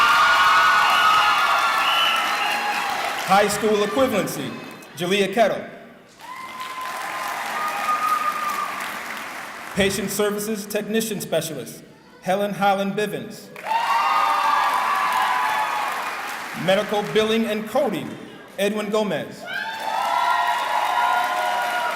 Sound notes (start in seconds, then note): 0.0 cheering; 6.1 cheering and clapping; 13.5 cheering; 19.4 cheering